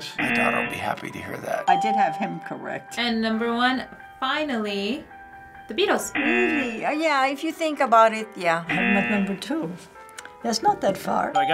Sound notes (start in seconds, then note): 1.6 ding